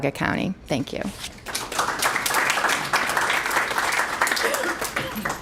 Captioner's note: applause